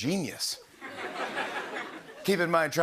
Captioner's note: laughter